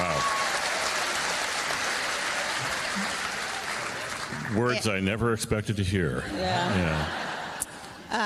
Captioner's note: applause